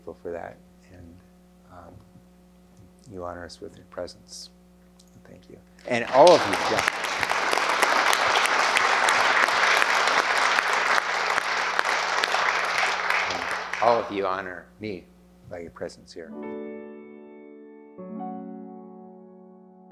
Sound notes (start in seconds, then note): 6.9 applause